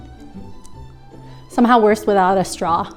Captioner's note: whimsical music; smacking lips